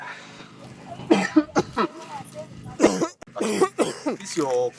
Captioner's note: loud coughing